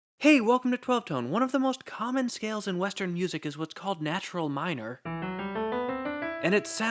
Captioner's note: bang